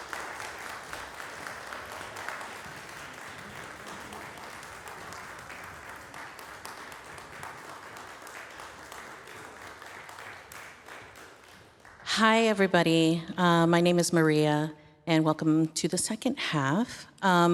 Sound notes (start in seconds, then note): 0.0 applause fades in; 0.0 applause continues; 8.7 applause fades out